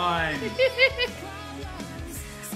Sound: chuckles

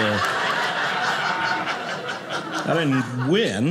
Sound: audience laughing

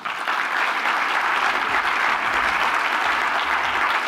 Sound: audience applauds

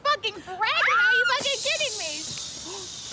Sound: Maddie yells

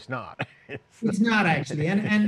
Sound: giggles

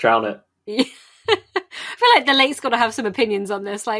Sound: laughs

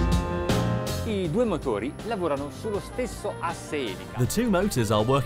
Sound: soft rock music; speaks in foreign language

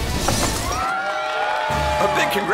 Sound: cheers

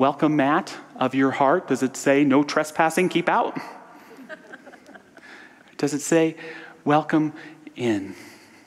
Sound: audience laughter

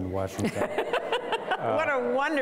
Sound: laughing

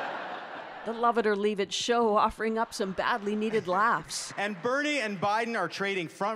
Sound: laughter

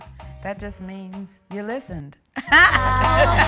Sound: laughing

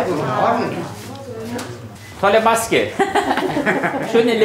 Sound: she laughs

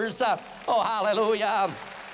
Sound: applause

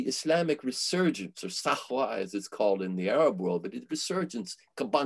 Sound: foreign language

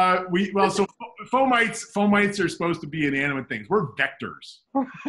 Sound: laughs

